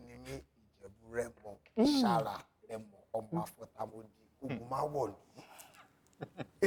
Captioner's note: reciting family-praise poetry